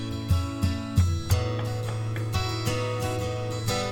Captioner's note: knocking